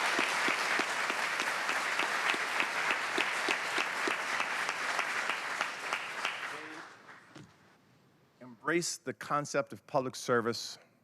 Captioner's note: applause